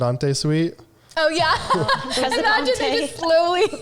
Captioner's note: laughter